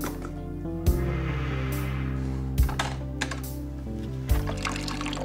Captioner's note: Quinn inhaling; gas trickling